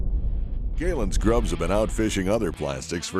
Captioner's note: voiceover